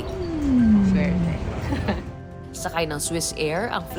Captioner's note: laughs